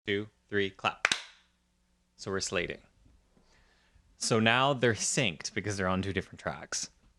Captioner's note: clap